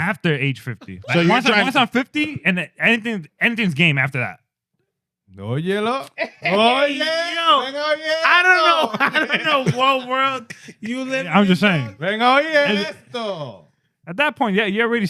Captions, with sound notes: After age 50. Once on 50 and then anything's game after that. (Speaking In Foreign Language) I don't know. I don't know what world you live in this. I'm just saying. (Speaking In Foreign Language) At that point, yeah, you're already